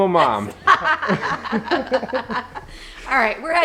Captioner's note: laughs